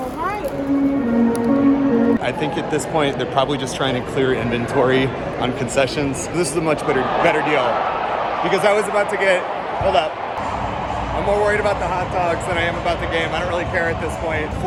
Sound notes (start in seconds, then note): 6.6 crowd cheering loudly; 11.2 cheering continues